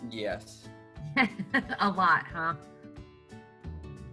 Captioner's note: chuckles